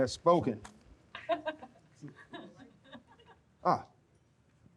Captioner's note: audience laughs